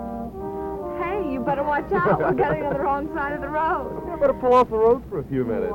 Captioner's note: laughter